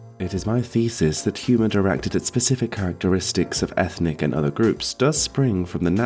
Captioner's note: none